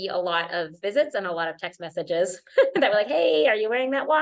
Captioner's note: laughter